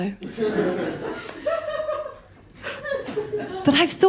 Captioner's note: laughter